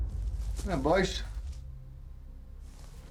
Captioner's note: scottish accent